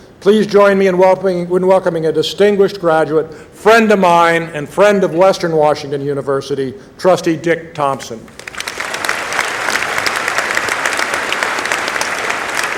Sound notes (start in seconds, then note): 8.3 applause